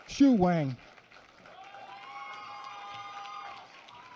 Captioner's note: applause